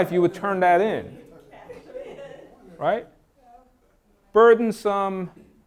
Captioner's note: participants laugh